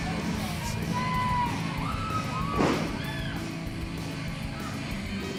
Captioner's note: crowd chatter